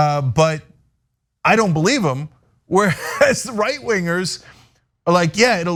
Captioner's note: laugh